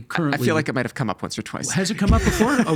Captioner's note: laughing